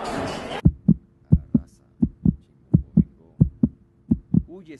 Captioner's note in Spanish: latidos de corazon